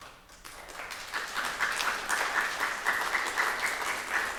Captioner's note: applause